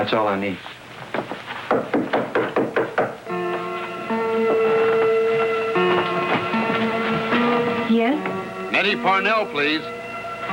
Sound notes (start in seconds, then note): 1.6 knock knock knock